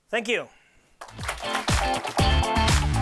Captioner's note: clapping